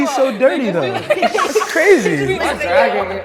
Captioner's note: students laughing